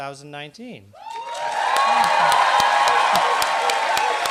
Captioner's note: applause